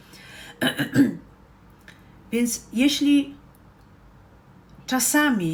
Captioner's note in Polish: kaszel